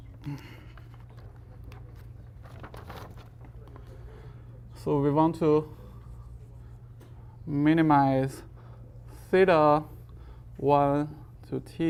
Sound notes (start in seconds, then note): 0.7 instructor sighs